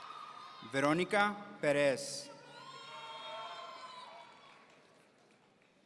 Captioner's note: audience cheering; audience cheering